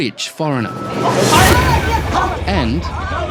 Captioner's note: people shout